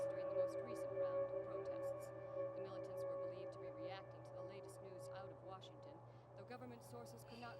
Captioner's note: television in the background